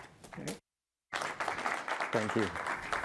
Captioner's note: applause